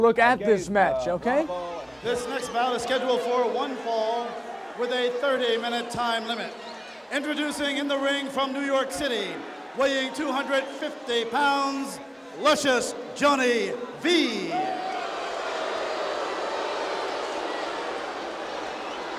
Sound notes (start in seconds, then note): 15.1 audience jeers